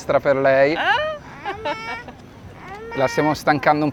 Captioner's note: laughter